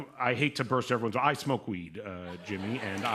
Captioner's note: laughter